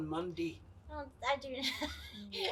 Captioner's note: laughs